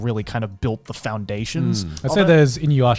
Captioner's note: laughs